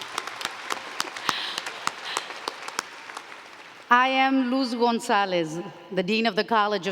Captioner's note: applause